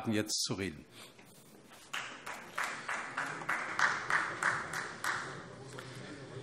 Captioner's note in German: Beifall Freie Demokraten